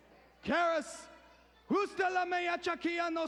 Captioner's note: speaking in foreign language